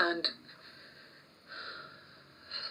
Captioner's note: sighs